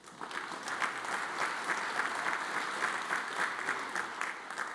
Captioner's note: audience applauds